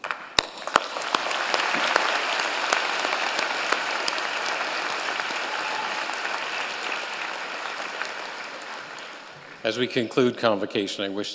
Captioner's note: applause